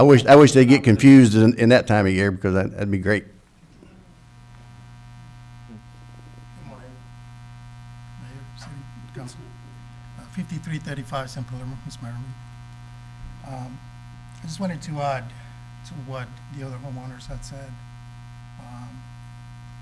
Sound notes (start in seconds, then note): 9.1 speaking off mic